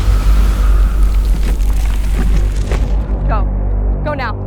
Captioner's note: zapping